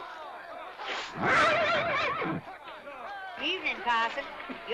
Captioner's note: horse neighs